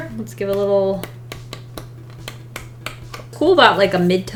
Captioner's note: paper flicking